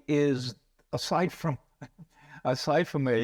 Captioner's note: laughs